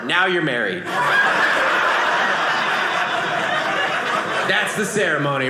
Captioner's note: audience laughing